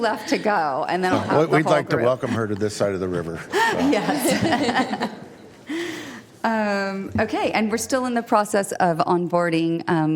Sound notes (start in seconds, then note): 3.6 laughter